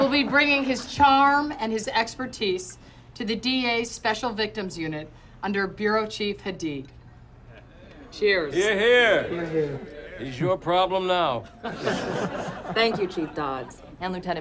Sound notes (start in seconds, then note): 11.4 laughter